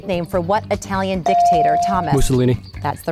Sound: ding

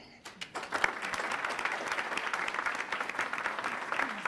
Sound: applause

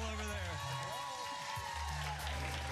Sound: cheers and applause

